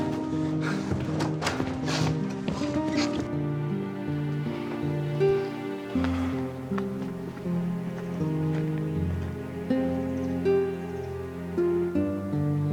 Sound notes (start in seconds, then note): 1.8 opens door; 3.3 fast footsteps; 7.4 somber music